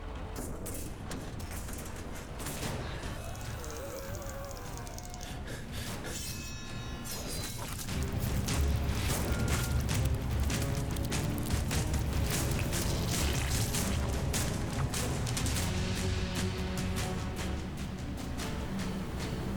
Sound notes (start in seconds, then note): 2.8 screaming; 6.9 dramatic music